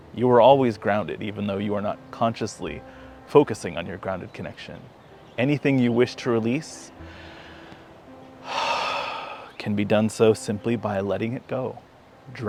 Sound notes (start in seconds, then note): 8.4 exhales; 8.4 inhales